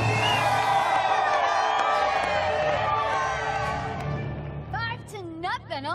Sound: cheering

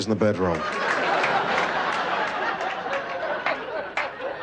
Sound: laughter

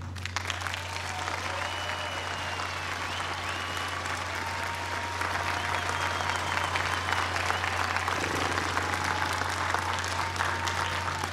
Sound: applause

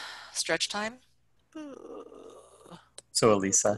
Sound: yawns

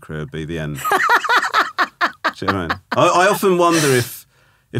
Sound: laughing

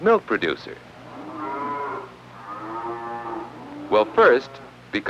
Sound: mooing

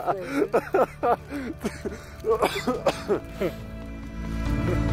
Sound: laughing; coughing

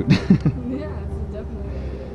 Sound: laughs

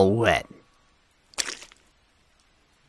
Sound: moss squishing

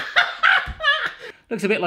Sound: popping; laughing

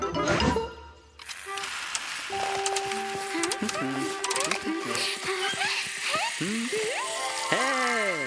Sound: sound of robots

